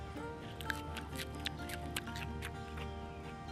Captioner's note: crunches